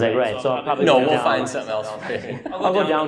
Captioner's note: laughs